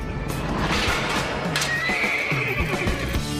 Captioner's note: neighing excitedly